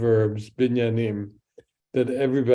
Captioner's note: speaks in Hebrew